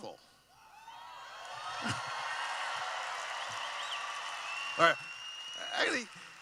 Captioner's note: cheering